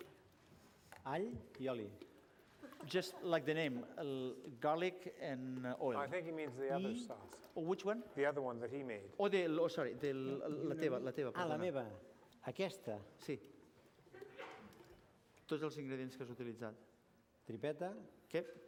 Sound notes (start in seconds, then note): 10.4 non-english; 12.3 non-english speech